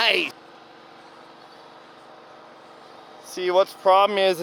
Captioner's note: engines running